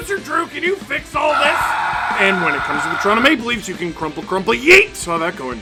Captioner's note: screaming